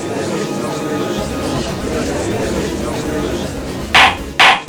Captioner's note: gallery chattering; gavel slams!